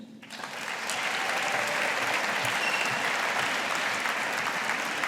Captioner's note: audience applauding